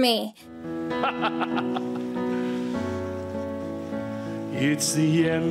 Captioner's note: Loki laughing